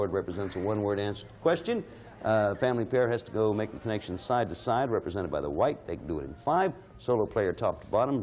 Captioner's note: none